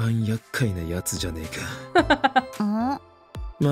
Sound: chuckles

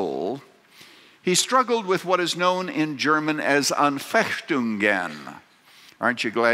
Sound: speaking german

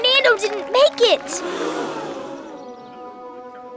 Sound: audience gasping; distant chattering

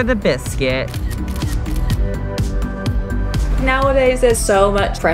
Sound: camera clicks

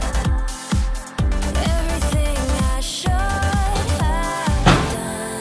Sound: boot closes

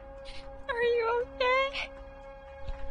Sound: timidly

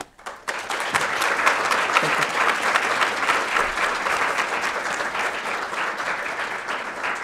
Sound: applause

